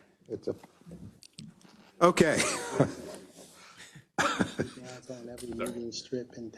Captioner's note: laugh